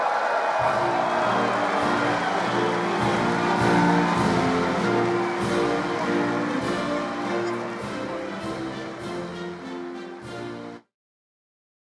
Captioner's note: applause